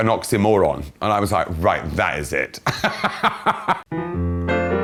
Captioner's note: laughs; bright piano music